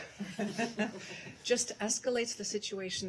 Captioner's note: laughter